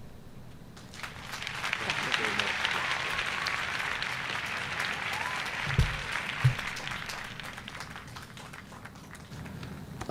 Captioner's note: applause